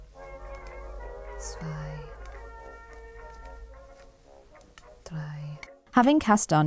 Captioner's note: counts in German